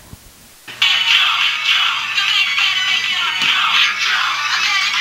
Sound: phone ringing

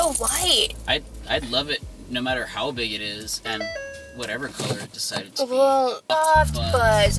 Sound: simulataneous momentary car sound

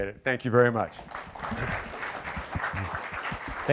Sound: applause

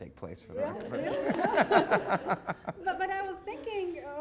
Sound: audience laughing

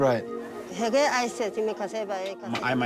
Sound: speaking foreign language

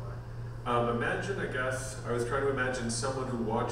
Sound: voiceover

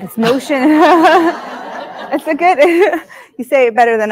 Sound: audience laughing

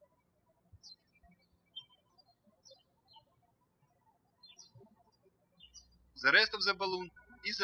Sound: birds chirping

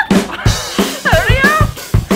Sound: laughing

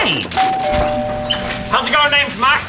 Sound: doorbell rings

